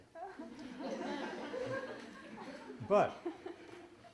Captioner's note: laughter